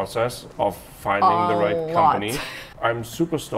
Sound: chuckles

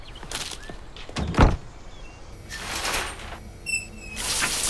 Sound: flower crunches; knob squeaks; water hissing

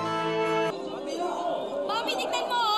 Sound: clamoring

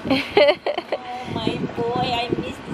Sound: laughing

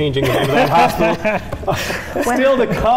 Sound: laughing

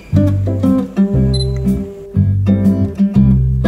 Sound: camera beeps

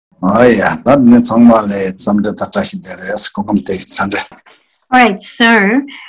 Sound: speaking in foreign language

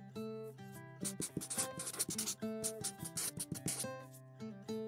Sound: sound of pen writing

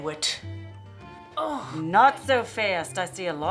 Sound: Wench groans

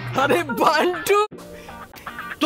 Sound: chuckles

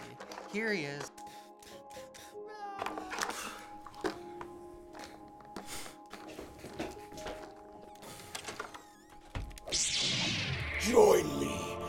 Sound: toy fight sounds

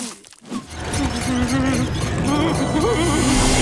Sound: whimpering

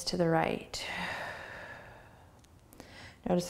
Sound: exhaling

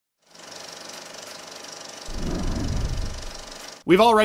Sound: movie reel clicking

